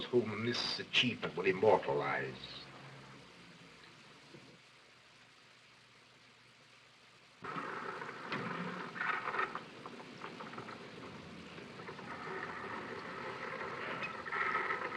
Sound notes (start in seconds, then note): 9.0 machine whirring